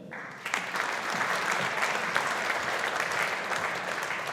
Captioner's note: audience applauding